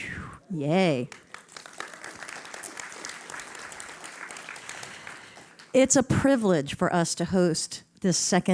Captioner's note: applause